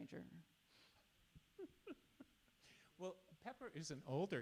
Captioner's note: chuckles